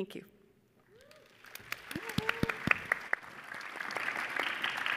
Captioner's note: audience applauding